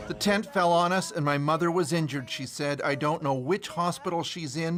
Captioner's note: speaking alternate language